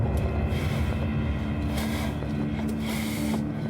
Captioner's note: breathing heavily